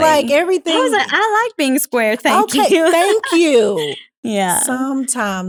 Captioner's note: laugh